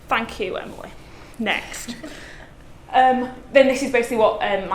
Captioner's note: laughs softly